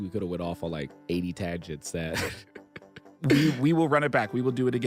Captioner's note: laughs